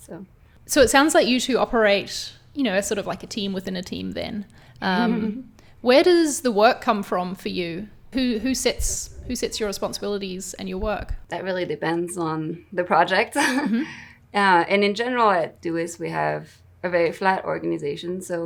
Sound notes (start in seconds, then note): 13.4 laughs